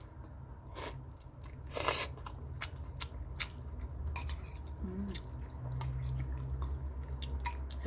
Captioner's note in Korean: 후루루 쩝쩝 먹고는있는중